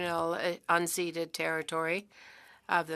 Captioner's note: speaking French